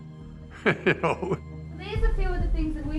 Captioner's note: chuckling